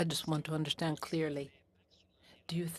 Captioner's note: speaking French